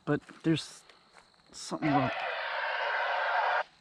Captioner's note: walkie talkie static